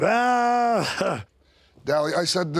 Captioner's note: DDP laughs